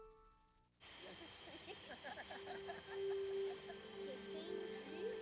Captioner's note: chuckles